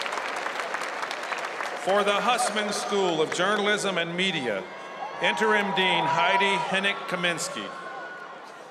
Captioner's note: cheers and applause